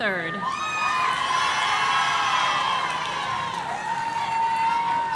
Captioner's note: audience cheering